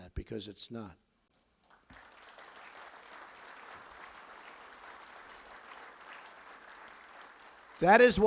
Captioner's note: applause